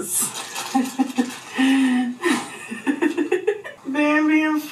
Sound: laughs softly

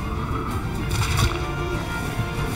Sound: bones cracking

